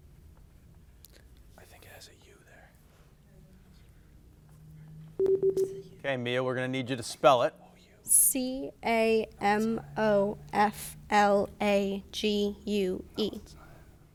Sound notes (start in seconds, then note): 5.2 timer beeping